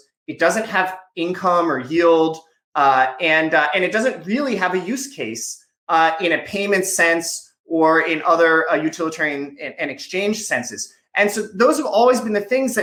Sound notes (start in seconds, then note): none